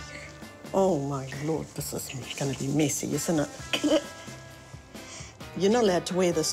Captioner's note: giggles